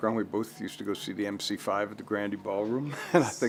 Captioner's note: laughs